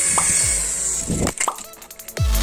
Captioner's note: helicopter Falls Down